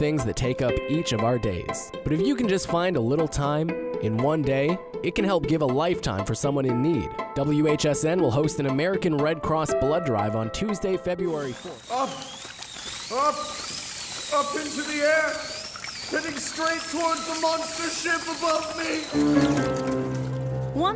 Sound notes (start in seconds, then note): 12.1 drilling; 12.1 gasping; 19.0 dramatic piano music